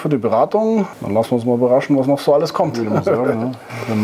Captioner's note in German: lacht